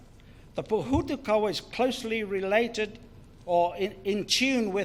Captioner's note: foreign Language